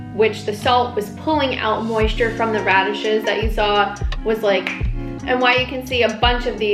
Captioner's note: finger snap